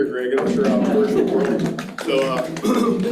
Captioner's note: crowd clapping